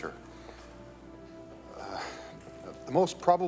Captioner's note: moan